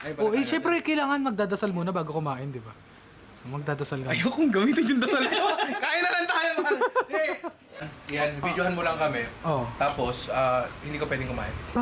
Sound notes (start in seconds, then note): 4.6 laughs; 4.7 laughter